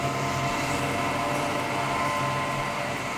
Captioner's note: machine hum